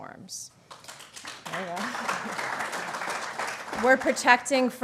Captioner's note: applause